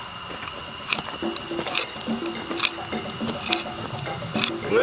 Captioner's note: stone scraping